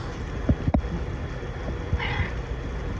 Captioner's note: mews